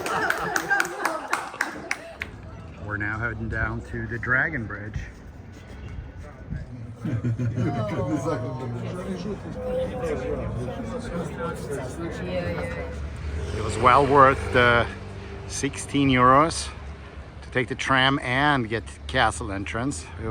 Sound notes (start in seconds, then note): 0.0 people clapping; 6.7 people laughing; 8.5 people chattering